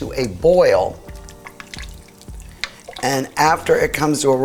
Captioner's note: liquid rippling